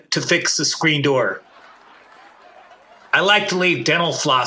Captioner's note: audience laughing